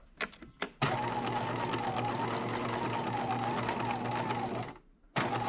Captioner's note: sewing machine whirring